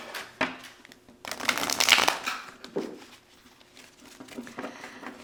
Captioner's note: shuffling